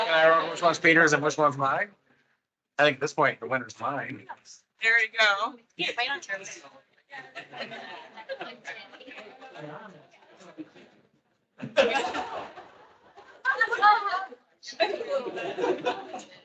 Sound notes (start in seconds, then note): 7.0 attendees chattering; 12.1 attendees laughing